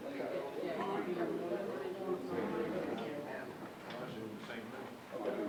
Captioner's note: audience chatting indistinctly